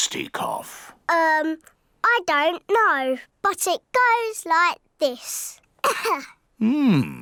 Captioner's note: coughs